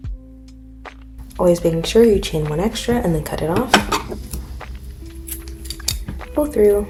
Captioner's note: scissors cut